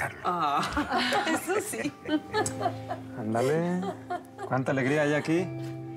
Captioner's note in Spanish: risas